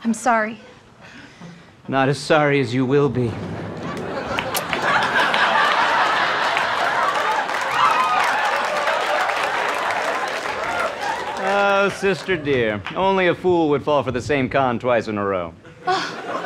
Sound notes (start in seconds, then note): 4.5 recorder clicks; 5.8 audience cheering